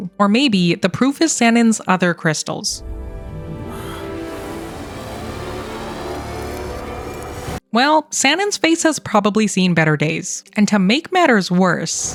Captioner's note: gasps